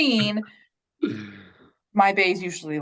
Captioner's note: chuckles